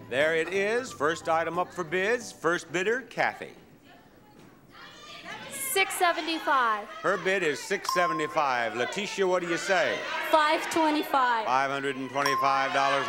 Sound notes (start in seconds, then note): 5.5 audience clamoring; 10.1 audience clamoring